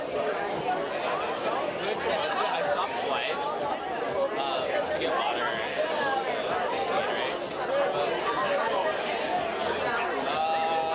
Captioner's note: party crowd talking